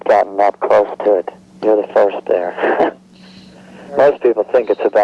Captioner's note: laughing